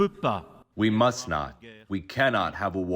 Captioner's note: through translator